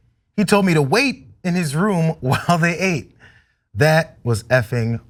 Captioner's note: laugh